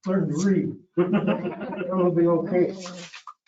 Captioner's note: chuckling